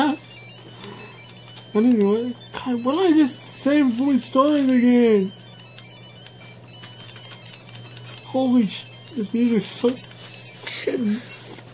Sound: laughs

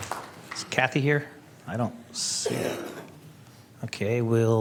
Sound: applause

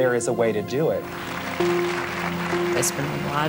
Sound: applause

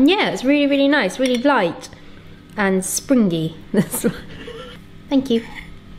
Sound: laughs

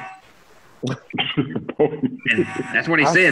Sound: laughter

